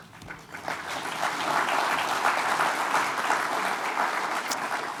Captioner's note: audience applauding